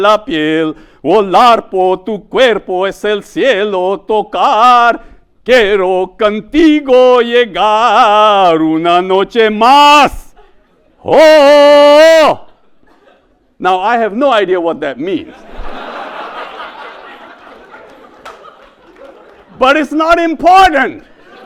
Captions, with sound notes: Now, I have no idea what that means. (audience laughs) But it's not important.